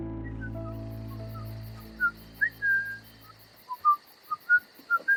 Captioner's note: David whistling